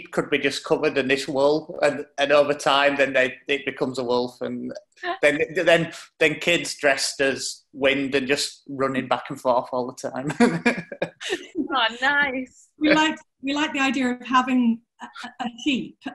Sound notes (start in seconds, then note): 10.0 laughing